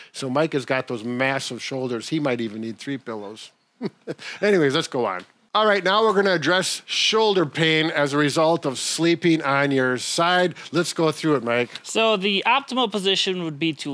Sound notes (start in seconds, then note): 3.8 chuckling